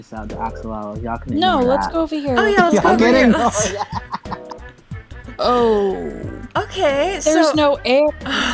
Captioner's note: laughing